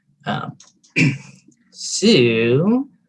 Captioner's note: clears throat